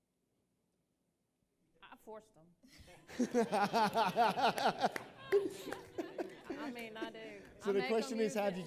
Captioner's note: laughter